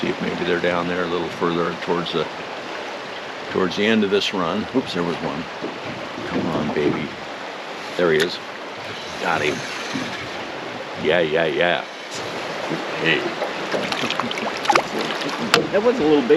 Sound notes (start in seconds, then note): 9.5 reel cranking; 11.8 water flowing